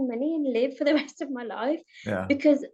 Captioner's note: chuckles